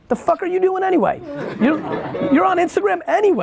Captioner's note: laughs